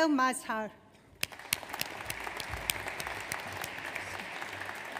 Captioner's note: audience applauds